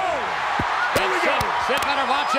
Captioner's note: audience cheers